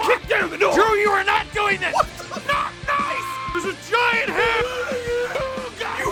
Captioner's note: screaming; Harry potter screaming